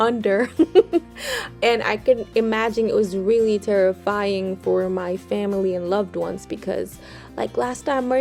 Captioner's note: laughs